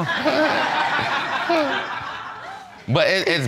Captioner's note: all laughing